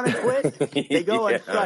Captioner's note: laughter